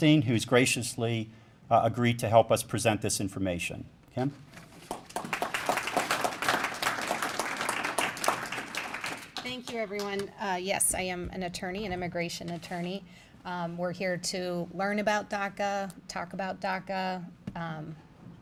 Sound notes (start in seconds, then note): 4.7 applause